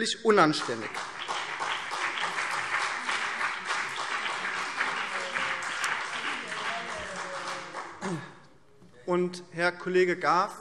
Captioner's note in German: Beifall BÜNDNIS 90/DIE GRÜNEN und CDU